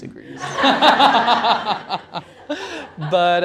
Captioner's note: laughter